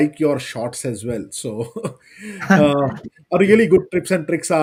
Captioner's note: laughs